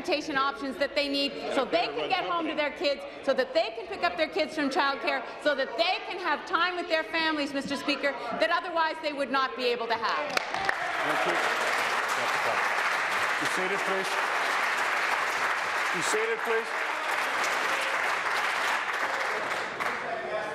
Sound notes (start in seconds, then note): 14.4 applause